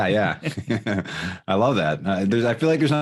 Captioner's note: laughing